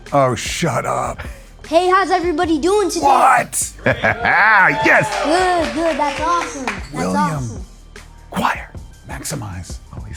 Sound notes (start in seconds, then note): 3.0 laughs; 3.8 audience cheering